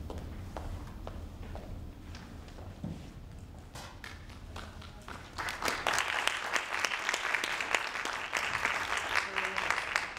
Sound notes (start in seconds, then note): 4.0 audience claps